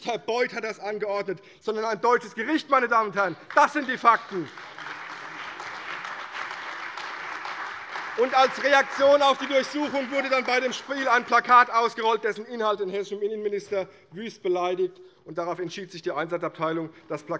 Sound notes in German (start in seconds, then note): 3.2 Beifall CDU, BÜNDNIS 90/DIE GRÜNEN und AfD